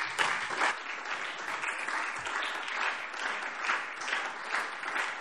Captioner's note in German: Anhaltender Beifall SPD und DIE LINKE